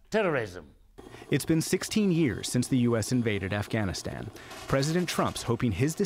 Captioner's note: voice-over